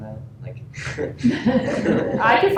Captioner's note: laughter